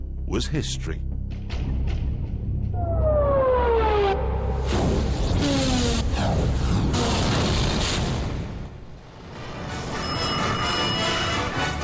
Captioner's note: phone rings